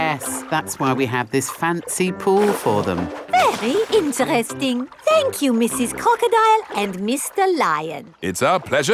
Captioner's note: none